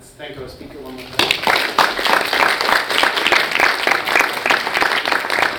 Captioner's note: audience applauds